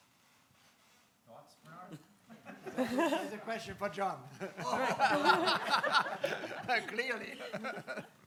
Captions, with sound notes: Thoughts, Bernhard? (audience laughing) - That's a question for John, (laughs) (audience laughing) clearly (laughs).